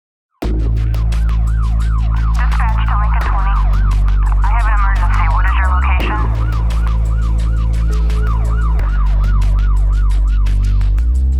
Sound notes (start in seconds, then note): 0.0 sirens